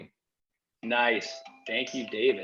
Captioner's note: Cory's phone chiming